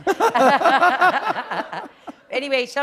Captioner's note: laughter